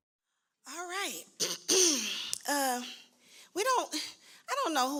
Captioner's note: clears throat